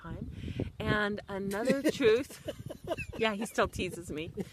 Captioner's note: laughs